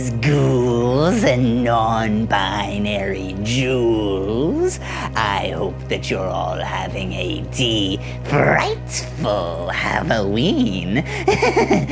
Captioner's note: evil laughter